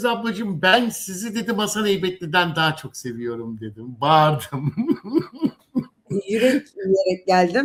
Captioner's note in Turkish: kahkaha